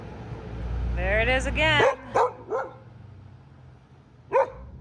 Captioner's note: dogs barking